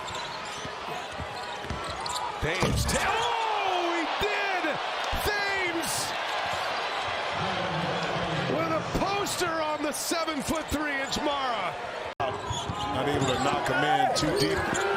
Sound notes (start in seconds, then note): 2.4 crowd noise; 2.9 cheers and applause